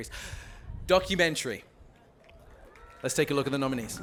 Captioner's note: applause